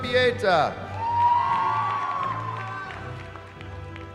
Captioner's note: cheering